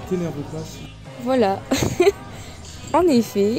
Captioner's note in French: rire